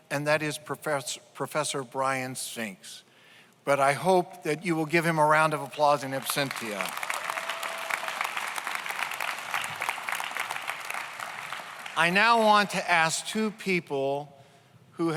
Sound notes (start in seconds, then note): 6.1 audience applauds; 6.7 audience cheers